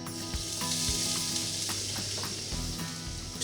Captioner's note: sizzling sound